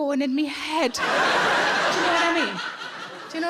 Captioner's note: audience laughing